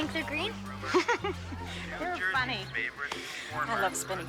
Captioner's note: laughing